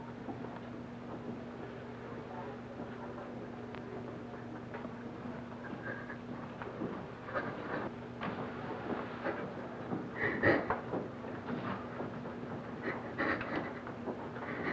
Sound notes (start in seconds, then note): 5.7 Trudy breaks down; 10.2 sobs quietly